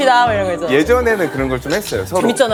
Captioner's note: laughs